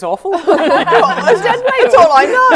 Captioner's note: laughing